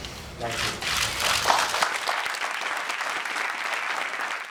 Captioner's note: applause